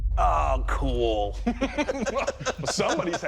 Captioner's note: laughter